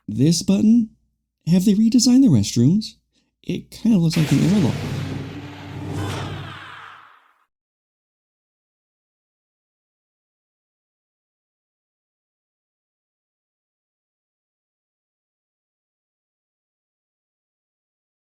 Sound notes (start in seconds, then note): 4.1 very serious door sound